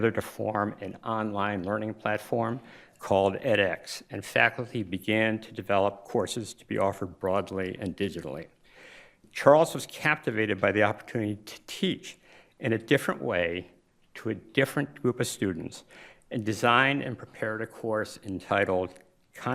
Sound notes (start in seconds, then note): none